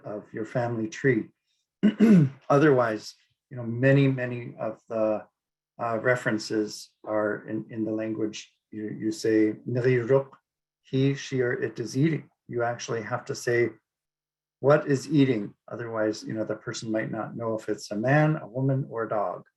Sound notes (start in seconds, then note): 6.0 speaking Inupiaq